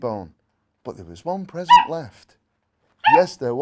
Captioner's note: dog barking